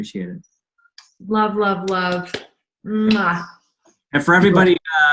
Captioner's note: blowing kisses